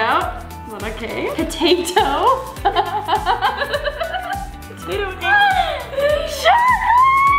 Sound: laughs

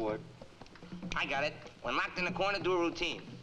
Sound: snaps

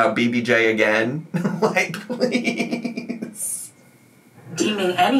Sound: laughs

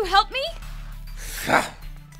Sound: disgust

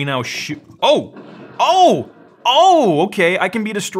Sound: exploding

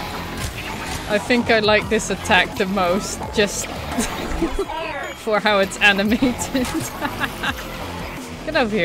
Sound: evil laugh

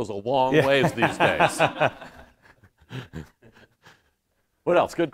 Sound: laughter

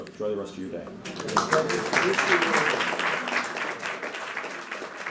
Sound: applause

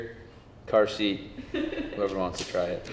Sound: producer laughs

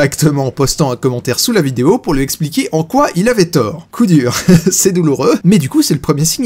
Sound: laughs

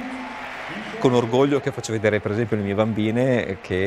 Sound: applause

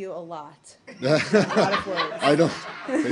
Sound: laughter

